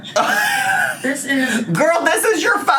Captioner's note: laughs